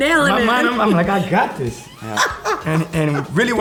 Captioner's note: laughter